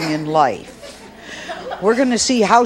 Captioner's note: audience laughs